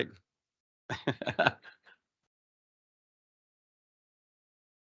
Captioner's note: laughing